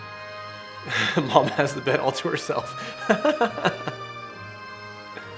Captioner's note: laughs